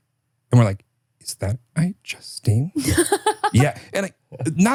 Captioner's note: Justine laughing